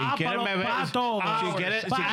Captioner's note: speaking In Foreign Language